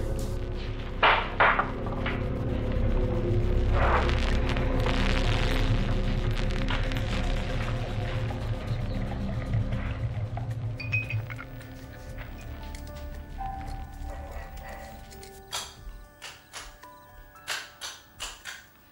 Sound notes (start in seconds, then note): 1.0 bang; 4.4 connection noise